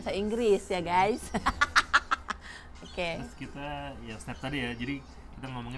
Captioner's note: laughs